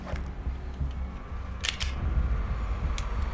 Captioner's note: cocking gun